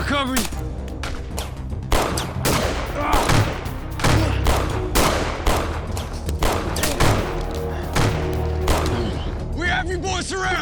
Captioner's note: gunshots continue